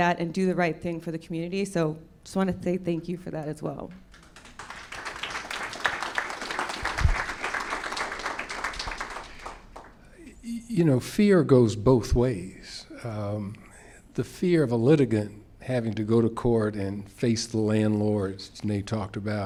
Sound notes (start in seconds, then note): 10.7 applause